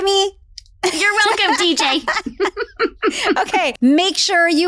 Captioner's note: laughs